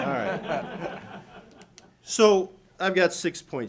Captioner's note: audience laughing